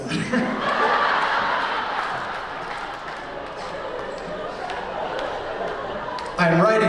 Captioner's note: laughter